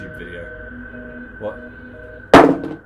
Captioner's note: phone thuds